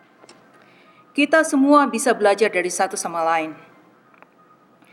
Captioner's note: speaks in Dutch